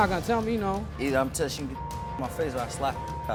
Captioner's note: beep